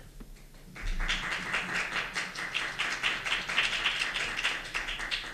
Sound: applause

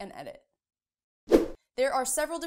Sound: air swooshing

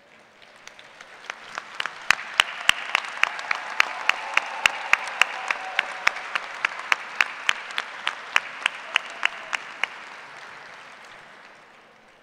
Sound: applause

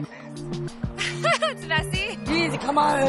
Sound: laughs

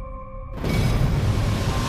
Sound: rain pattering

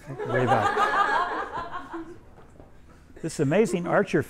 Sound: everyone laughs

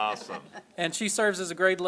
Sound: laughter

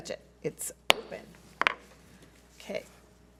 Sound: gavel bangs

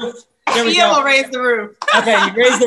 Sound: all laugh

